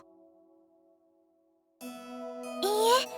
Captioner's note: silence